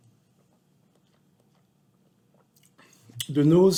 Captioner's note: swishes wine